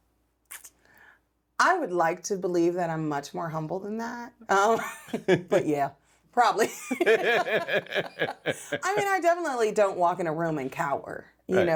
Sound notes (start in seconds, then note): 6.6 both laughing; 6.7 laughs